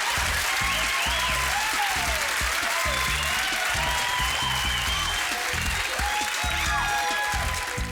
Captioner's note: applause